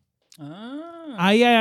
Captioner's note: speaking In Foreign Language